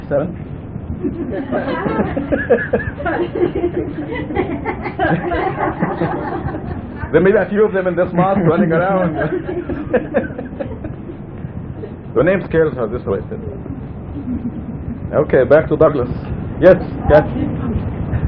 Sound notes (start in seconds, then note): 1.0 lots of laughter